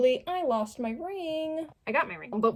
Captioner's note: sing song voice